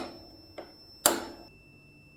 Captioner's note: whack